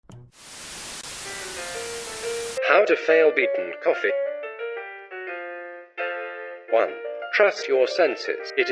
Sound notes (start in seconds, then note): 0.7 TV sound